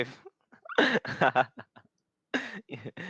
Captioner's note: laughing